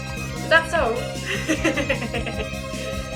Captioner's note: laughs